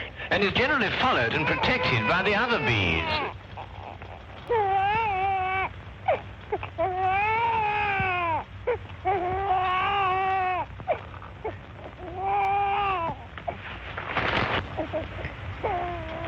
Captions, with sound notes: bee is that she seldom leaves the hive. And is generally followed and protected by the other bees. [baby crying]